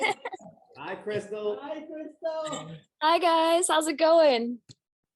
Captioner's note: Crystal laughs